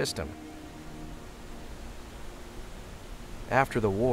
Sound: water rushing

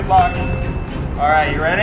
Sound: ding

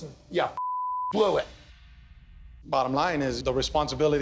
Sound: beep

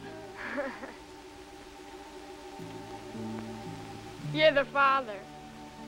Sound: laughter

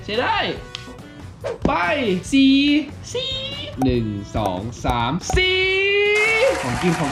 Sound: high pitch

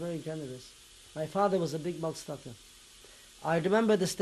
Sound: non-english

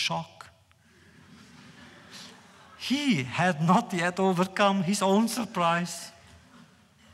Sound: laughter

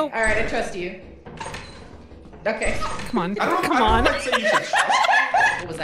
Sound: door opens and closes repeatedly; laughs

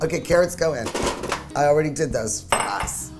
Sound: banging

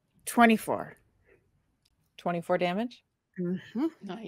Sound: none

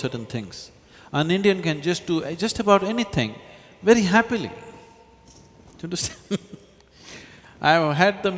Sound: laughs

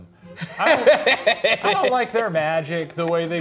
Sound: laughing

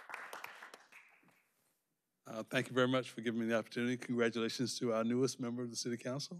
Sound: applause

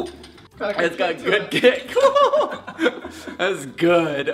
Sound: laughing

